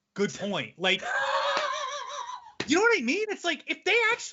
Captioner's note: laughing